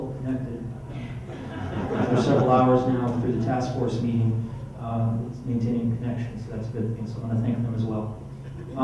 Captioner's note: laughter